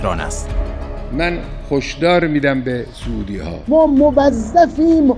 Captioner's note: Voice of Khamenei